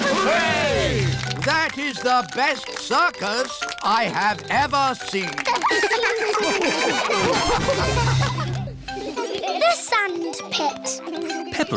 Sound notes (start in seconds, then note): 5.4 all laugh